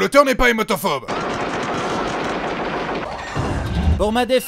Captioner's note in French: explosion